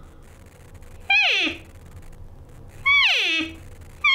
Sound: cow call honks

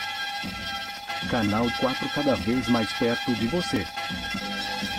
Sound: man speaking brazilian portuguese

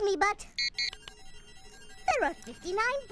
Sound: beeping

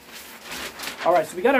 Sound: paper crinkling

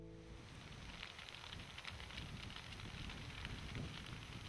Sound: fire crackling

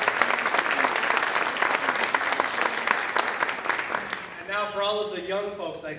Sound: applause, cheering

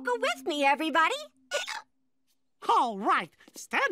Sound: hiccups

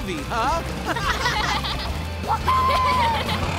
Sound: laughing

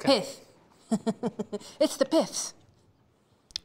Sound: laughs

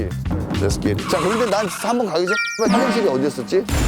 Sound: sudden brake

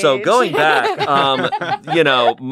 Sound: laughs

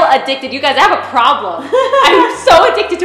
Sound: laughs

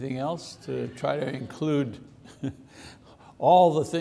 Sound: chuckles

